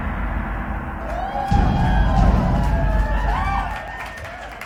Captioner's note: gong sound; crowd cheers